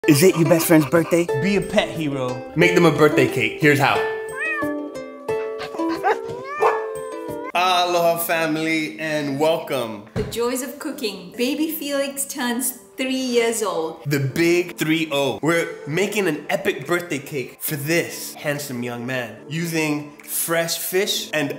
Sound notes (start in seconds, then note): 4.2 cat meowing; 5.6 dog barking